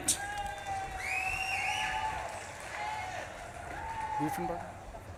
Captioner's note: audience claps and cheers